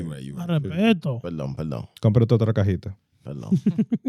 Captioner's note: speaking In Foreign Language